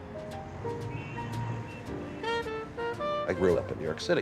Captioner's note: horns honking